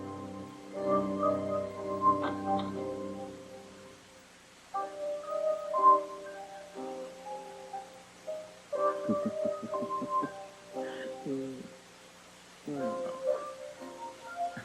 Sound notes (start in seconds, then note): 9.0 man laughs